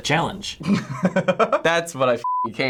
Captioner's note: laughing